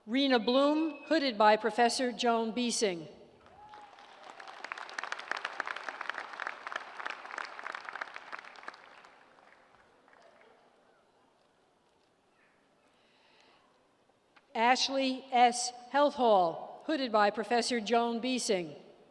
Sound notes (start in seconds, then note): 3.4 applause